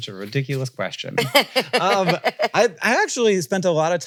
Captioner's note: laughs